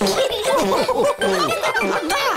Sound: giggles; laughter

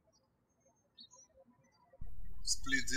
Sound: birds chirping

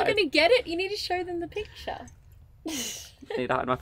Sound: laughing

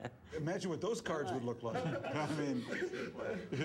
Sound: laughter

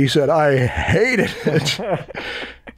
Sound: laughter

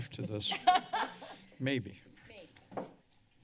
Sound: laughter

